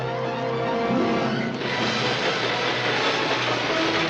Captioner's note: train rumbling